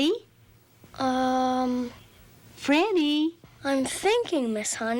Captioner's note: stammering